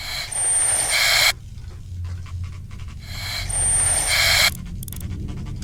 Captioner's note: mechanical sounds continue